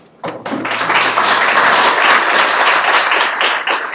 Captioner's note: applause